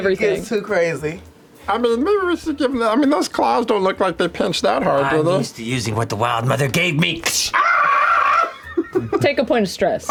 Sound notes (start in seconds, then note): 7.5 shrieks; 7.5 laughs